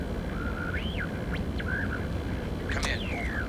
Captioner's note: static crackling